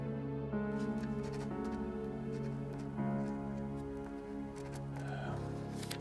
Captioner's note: pen scratching against paper